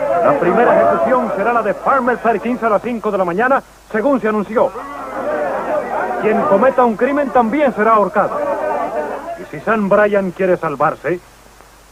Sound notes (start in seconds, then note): 0.0 laughter; 4.5 crowd booing